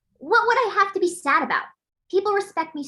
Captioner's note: none